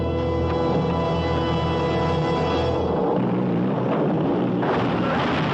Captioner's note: crash; blast